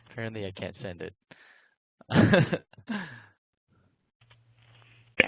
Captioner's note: laughs